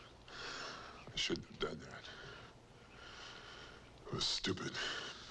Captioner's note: sighs